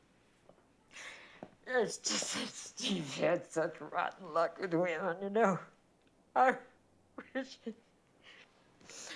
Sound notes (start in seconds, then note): 1.6 crying